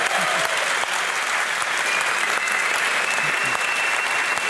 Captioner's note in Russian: публика аплодирует